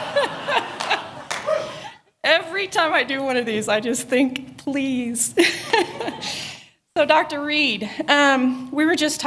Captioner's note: laughter